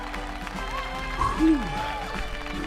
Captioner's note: moaning